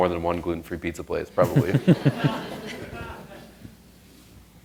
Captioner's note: laughter